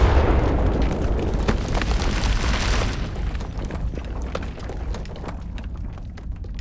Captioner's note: explosion; dirt scattering